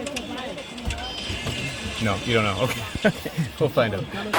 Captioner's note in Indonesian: tertawa